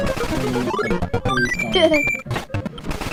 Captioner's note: giggles